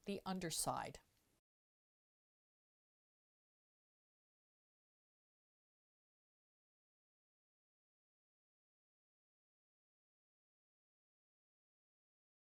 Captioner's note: no Sound Present